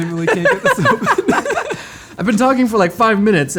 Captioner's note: laughs